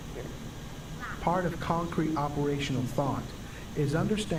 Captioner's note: voiceover